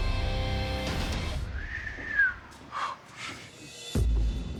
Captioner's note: whistles